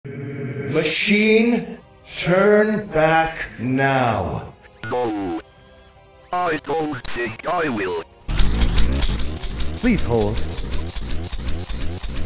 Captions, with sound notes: Machine, turn back now. No. I don't think I will. [menacing cocking] Please hold.